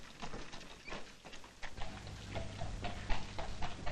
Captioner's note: carriage approaching